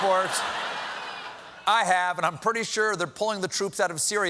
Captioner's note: laughter